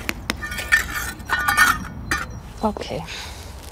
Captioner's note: metallic sanding